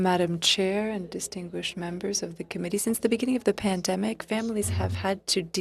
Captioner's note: speaking French